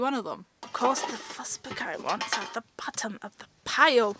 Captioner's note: in an odd accent